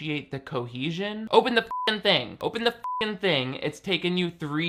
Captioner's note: beep